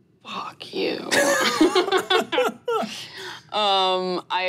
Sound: laughing

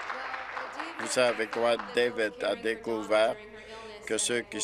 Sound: applause

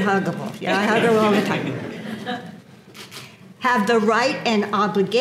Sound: laugh

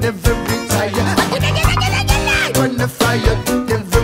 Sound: chanting

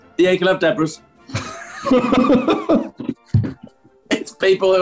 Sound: laughter

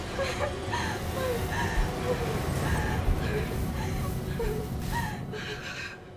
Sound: wind and fire sounds; music fades away

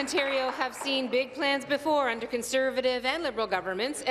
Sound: applause

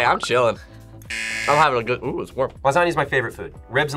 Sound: buzzer

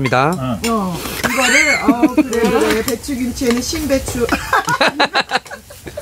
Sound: laughs

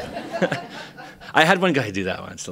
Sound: laughter

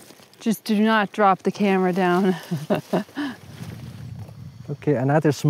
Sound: laughs

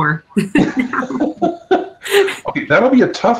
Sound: all laughing

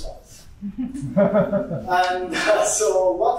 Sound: audience giggles

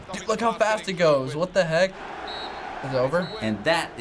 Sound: ref blowing whistle

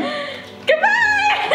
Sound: laughs

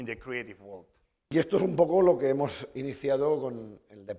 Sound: speaking spanish

